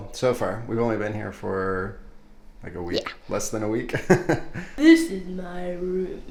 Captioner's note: laughing amusingly